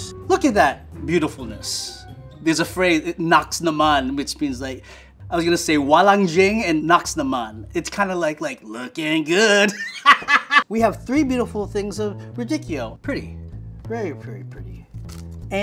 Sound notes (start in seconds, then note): 3.0 speaks in foreign language; 5.8 speaks in foreign language; 9.7 laughs